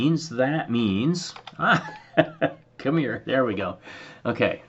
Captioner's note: laugh